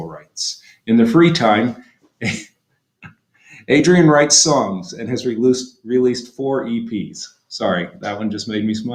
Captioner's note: laughter